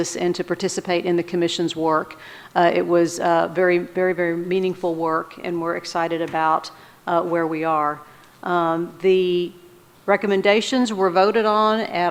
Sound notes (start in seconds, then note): none